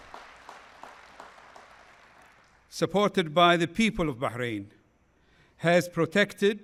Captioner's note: applause